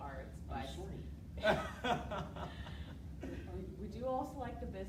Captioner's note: laughing